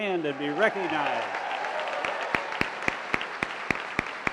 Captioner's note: applause